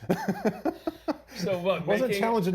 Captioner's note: laughing